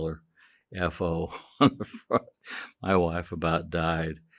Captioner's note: chuckling